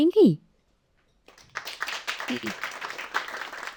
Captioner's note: audience applauding